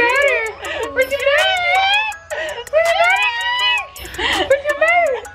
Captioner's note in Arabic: كلاهما صرير